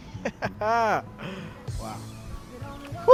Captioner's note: laughs